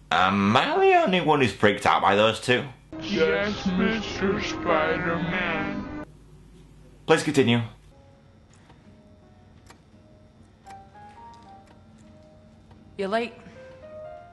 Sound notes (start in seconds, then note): 10.6 clock ticks